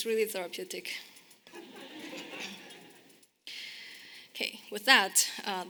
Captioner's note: audience laughing